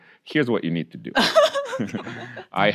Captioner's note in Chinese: 大笑